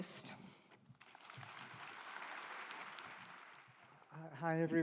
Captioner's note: claps